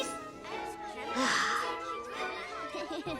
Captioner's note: sighing